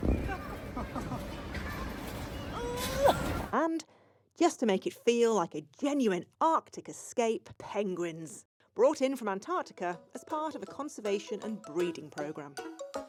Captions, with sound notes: (host groaning) And just to make it feel like a genuine Arctic escape, penguins brought in from Antarctica as part of a conservation and breeding program.